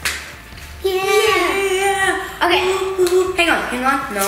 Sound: both cheering

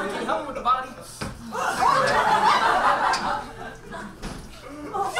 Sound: audience laughs

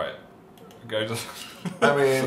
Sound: laughs

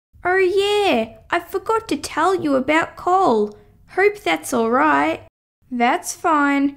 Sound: none

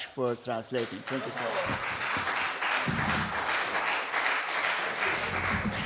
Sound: applause

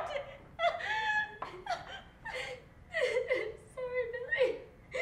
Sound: loud sobbing

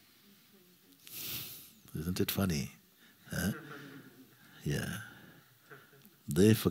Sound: laughter

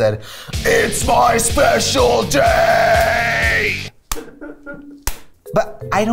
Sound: imitation male voice

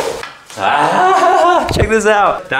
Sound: laughs

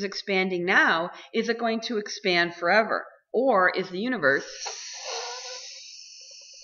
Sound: sound of air being released from balloon

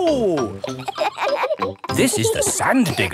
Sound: kids laughing

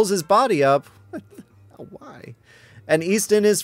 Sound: giggling

